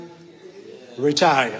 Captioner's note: audience members affirming